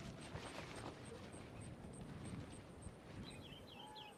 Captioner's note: ambient sounds of nature